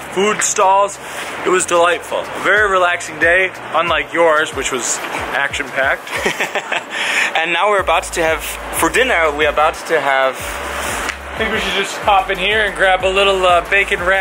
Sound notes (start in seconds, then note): 6.0 giggles